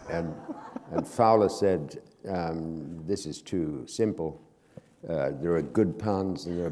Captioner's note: laughter